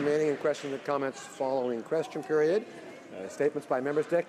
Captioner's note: applause